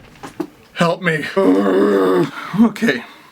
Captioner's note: groans, stressed